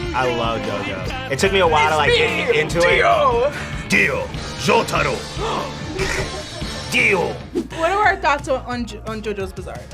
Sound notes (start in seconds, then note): 3.3 gasps; 5.5 both laugh